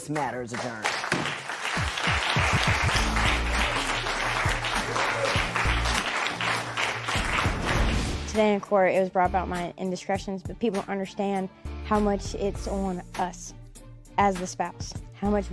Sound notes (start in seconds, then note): 1.7 applause